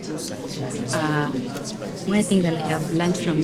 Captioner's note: students talking